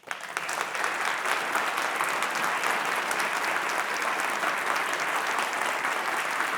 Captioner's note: applause